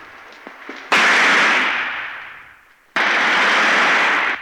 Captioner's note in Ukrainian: стрільба